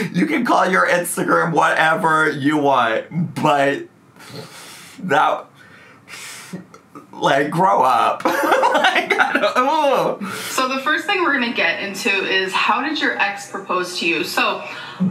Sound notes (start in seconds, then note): 4.2 exhales; 8.2 laughs